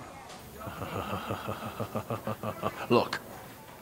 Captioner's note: low meanacing laugh